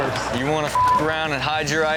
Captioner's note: beep